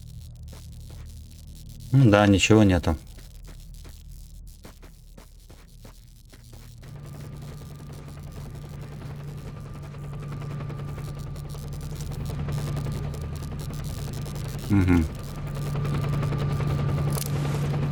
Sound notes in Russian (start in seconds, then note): 4.8 шум аномалии Электра